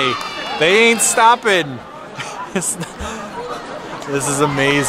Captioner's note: laughs in amazement